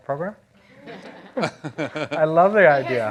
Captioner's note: audience laughing